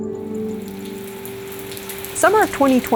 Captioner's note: rain falling